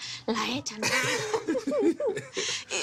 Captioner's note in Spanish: Risas